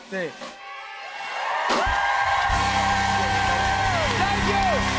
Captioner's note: cheers and applause